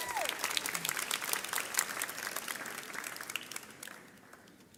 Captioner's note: audience cheers